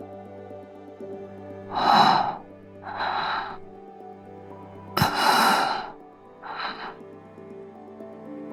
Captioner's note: sigh